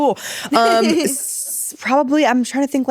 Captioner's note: giggling